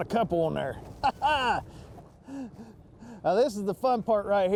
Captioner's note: laughs